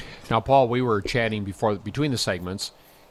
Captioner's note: voiceover